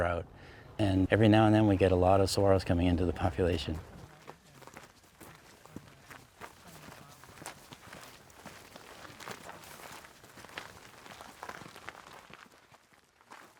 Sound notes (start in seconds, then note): 3.9 feet crunching in the soil